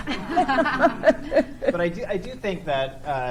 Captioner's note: laugh